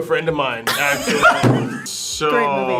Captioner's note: group laughs